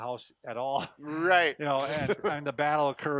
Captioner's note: laughs